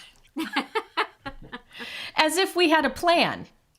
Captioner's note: all chuckles